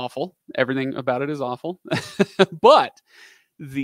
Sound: laughing

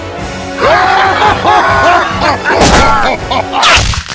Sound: goblins laughing

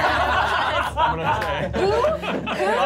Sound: laughing

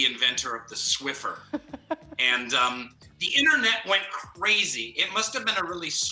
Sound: laughs

